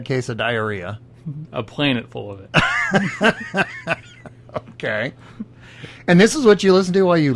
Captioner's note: belly laughs